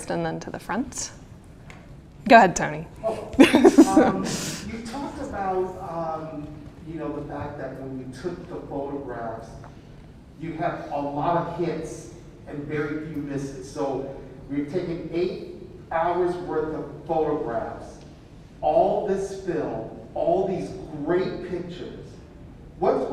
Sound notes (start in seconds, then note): 3.1 chuckles